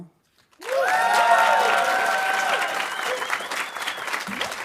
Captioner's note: audience applauding